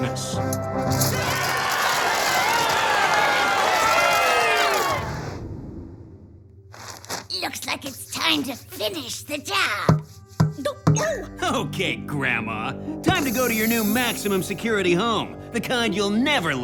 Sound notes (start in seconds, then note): 5.6 crowd cheering